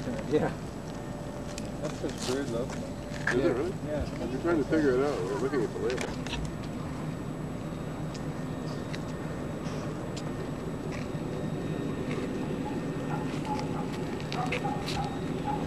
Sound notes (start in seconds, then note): 14.3 dog barking